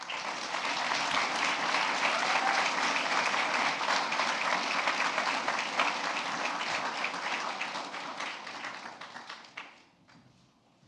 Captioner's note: applause